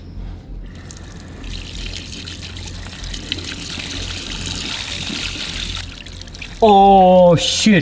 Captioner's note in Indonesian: Air mengalir